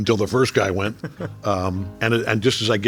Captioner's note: laughing